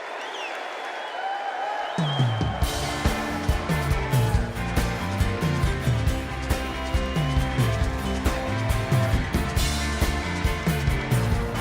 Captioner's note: cheers and applause; crowd chanting